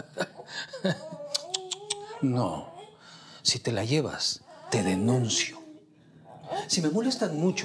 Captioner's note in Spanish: Risas